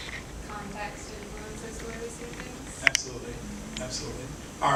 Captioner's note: woman speaks from a distance